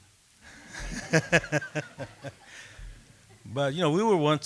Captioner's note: laughter